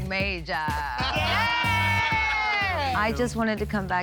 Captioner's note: shouting